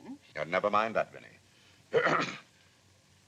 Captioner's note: clears throat